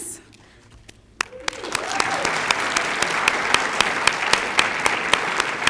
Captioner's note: cheers, applause